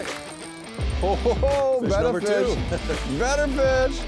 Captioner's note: voiceover